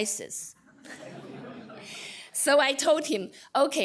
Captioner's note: laughter